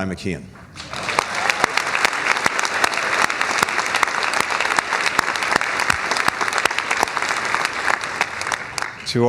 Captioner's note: applause